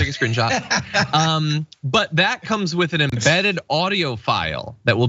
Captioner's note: laugh